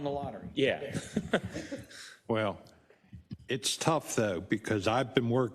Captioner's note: laugh